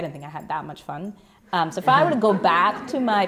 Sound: laughter

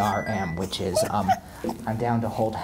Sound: giggling

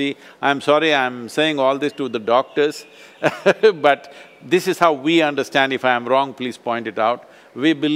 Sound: laughs

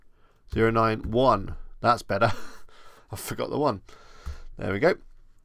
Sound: chuckles

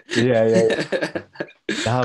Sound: laughter

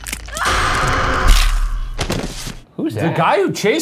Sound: ghost screams

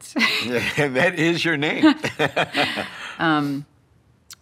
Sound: laughs

